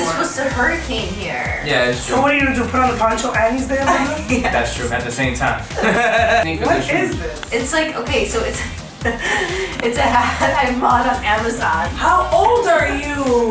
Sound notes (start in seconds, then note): 5.7 laughter; 9.0 laughter